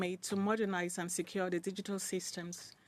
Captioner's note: speaking in French